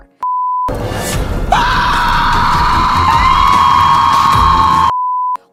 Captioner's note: screaming